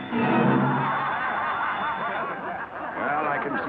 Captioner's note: class laughing